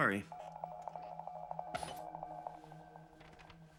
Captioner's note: computer beeps